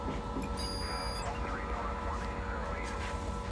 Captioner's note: electronic beeping